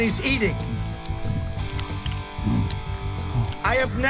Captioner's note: slurping